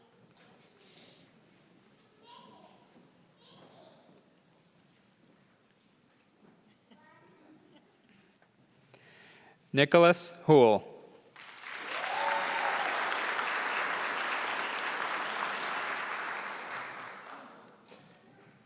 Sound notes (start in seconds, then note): 11.3 applause